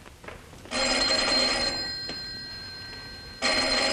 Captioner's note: phone ringing